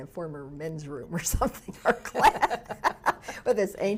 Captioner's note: laughs